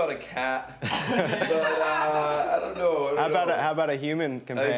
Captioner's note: they laugh